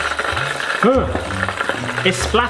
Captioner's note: oil bubbling